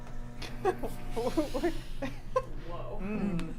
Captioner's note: laughs